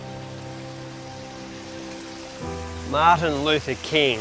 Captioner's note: watefall sounds